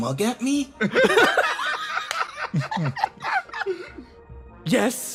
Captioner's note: laughs